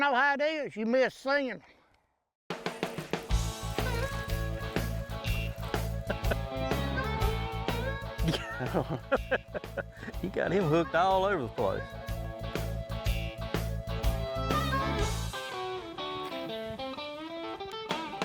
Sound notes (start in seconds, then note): 1.8 upbeat country rock music; 5.9 laughing; 6.4 upbeat country rock music; 8.2 people laughing; 11.0 upbeat country rock music